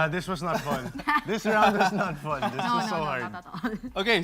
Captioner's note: laughing